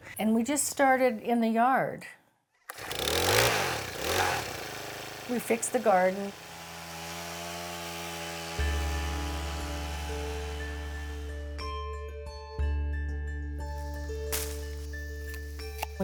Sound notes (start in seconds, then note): 2.6 garden tiller starting; 8.5 mellow music